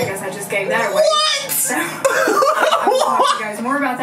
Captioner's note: laughs